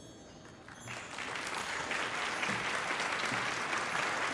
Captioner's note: crowd applauding